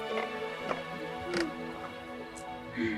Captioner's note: footsteps